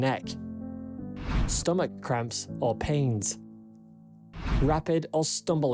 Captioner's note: screen swishes